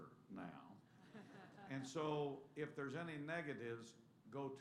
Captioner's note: laughter